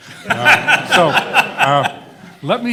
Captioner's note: everyone laughing